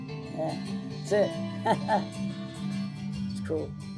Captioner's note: laughs